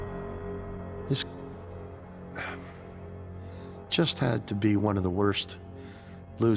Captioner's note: sighing